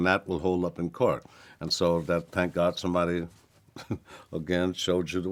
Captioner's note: chuckles